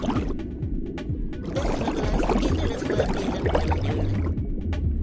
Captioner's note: gurgling; gurgling